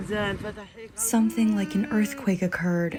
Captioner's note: through translator